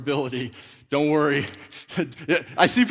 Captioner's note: laughs